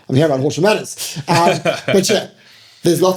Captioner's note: laughing